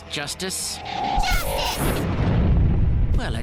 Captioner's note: robot crashes